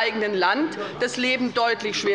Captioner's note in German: Unruhe - Glockenzeichen des Präsidenten